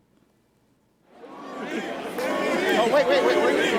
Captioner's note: crowd chatters